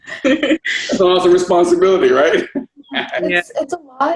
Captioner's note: laugh; laughs